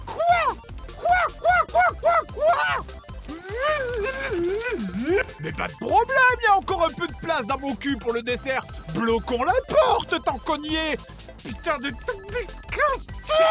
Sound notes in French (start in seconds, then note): 3.3 grognement et balbutiement énervés